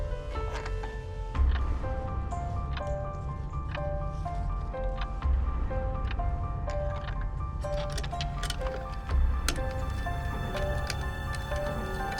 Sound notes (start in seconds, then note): 1.0 clock ticking; 1.0 tense music; 9.6 tense music